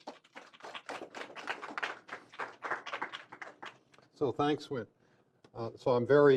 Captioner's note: applause